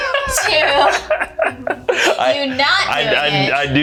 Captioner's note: both laughing